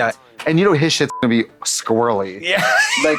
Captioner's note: beep